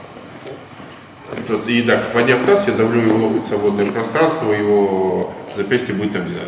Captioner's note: speaking in a foreign language